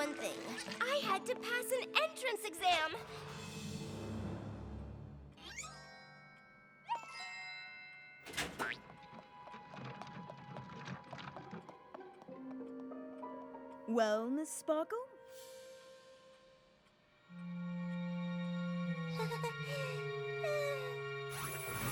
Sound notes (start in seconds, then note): 4.2 ding!; 8.2 door opens; 18.3 chuckles nervously